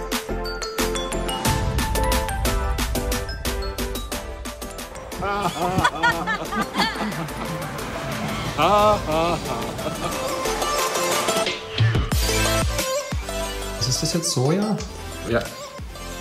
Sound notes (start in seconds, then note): 5.2 laughter